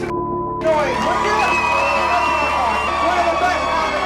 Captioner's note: beep; audience cheering